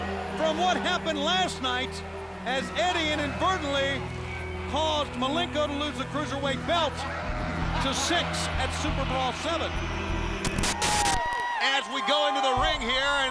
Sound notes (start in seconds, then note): 10.4 static crackling; 10.5 attendees cheering